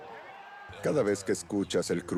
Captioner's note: bat cracks, crowd cheers